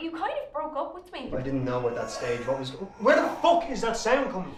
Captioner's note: babies cries, louder